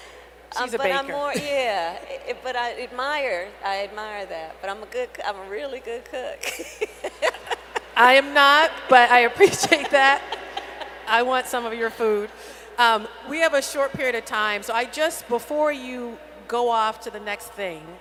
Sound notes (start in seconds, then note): 0.8 laughs; 6.4 laughs